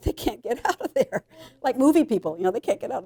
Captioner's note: chuckling